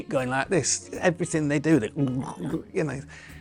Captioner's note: glugs